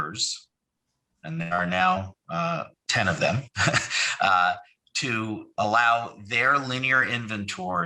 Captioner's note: laugh